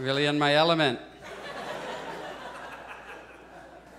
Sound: audience chuckles

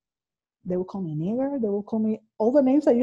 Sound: faintly speaking

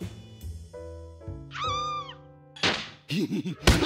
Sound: woman screams; chuckles

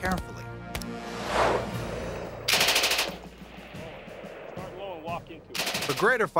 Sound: gun shots

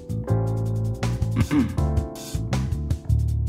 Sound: cough, cough

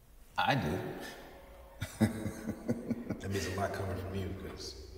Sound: laughing

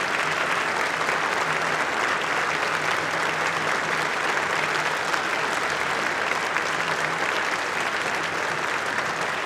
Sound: applause

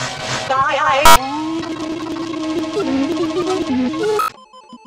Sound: breathing rhythm; loud beeping sound; scrambled sound effects

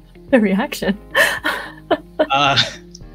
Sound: chuckles

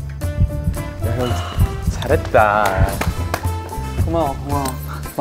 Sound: clapping

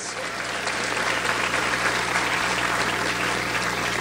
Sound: audience applauds

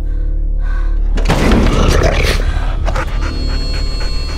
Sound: heavy thud then snarling

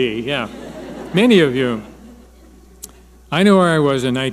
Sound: audience laughing

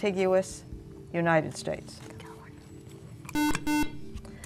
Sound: whispering

